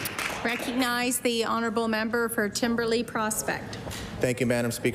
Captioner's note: applause